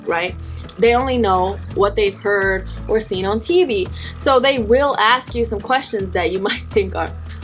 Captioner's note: sighs